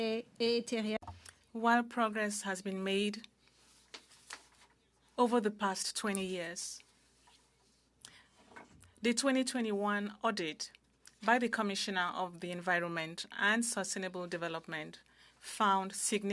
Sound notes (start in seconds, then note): 2.6 speaking French